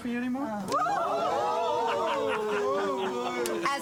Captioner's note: crowd